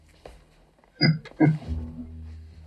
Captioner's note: chuckling